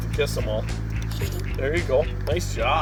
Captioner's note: giggles